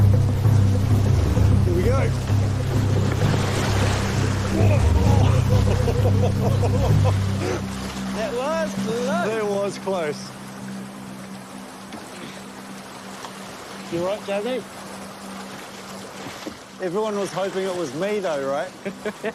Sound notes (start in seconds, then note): 3.4 water splashes; 4.5 laughs